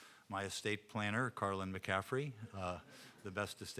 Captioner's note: audience chuckling